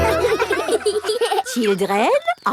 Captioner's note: children laughing